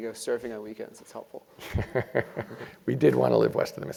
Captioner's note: laugh